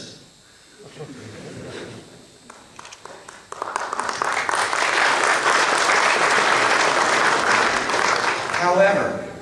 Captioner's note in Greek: Γέλια και χειροκροτήματα στο ακροατήριο